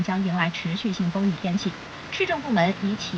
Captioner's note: continuous rain and wind